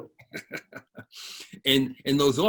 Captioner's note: laughs